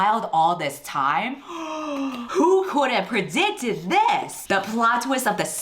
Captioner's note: gasps